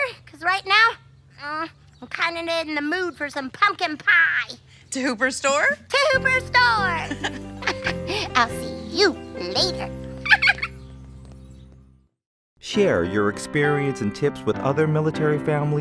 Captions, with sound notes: Because right now, I'm kind of in the mood for some pumpkin pie. To Hooper's store? To Hooper's store. [laughter] I'll see you later. [giggles] Share your experience and tips with other military families